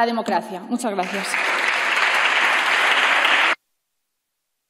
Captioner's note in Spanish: Aplausos